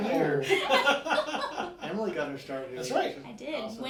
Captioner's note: laughing